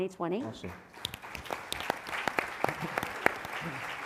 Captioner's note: applause